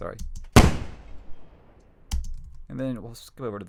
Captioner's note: gunshot